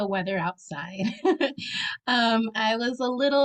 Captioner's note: laughs